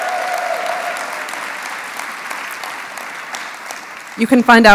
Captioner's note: applause